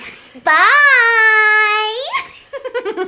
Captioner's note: giggles